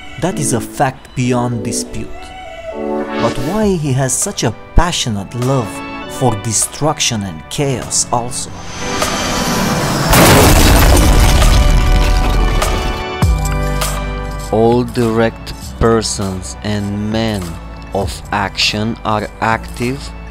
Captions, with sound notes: that is a fact beyond dispute. But why has he such a passionate love for destruction and chaos also? [plane crash] All direct persons and men of action are active